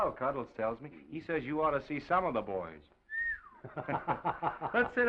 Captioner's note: whistles; Oliver laughs